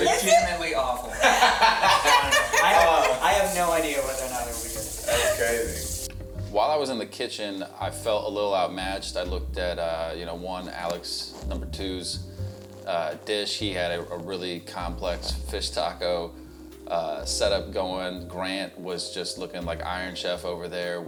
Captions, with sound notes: Legitimately awful. (group laughs) I have no idea whether or not it'll be good. - That's crazy. - While I was in the kitchen, I felt a little outmatched. I looked at one Alex number two's dish. He had a really complex fish taco set-up going. Grant was just looking like Iron Chef over there